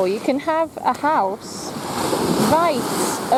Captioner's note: waves lap